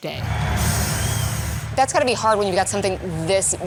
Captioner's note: fire blazing